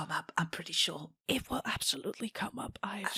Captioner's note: whispering